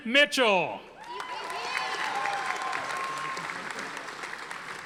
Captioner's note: audience applauding